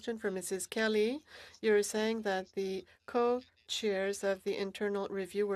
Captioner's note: speaking French